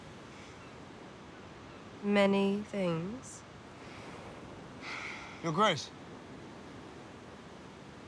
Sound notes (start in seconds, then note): 4.8 sighs